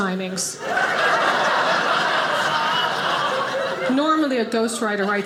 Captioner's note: audience laughing